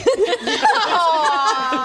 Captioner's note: mean laughter